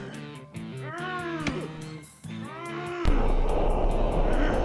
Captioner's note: Dracula choking; smoke gusts profusely